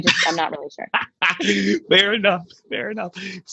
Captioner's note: laughing